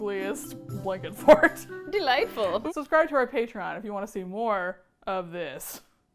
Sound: laughs

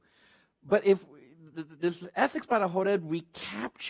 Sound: speaks Spanish

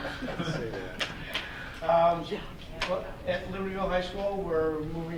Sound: audience laughing

